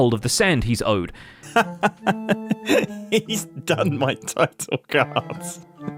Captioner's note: laughs